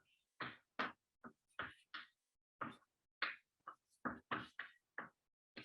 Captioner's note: chalkboard tapping loudly